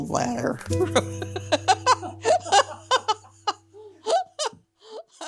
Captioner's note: laughs